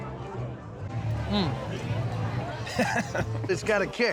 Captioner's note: laughs